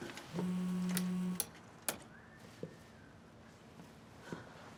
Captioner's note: cell phone vibrates